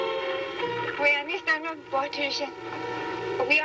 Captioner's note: speaking swedish